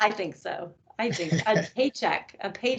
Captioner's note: laughing